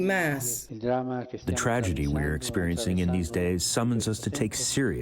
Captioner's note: through translator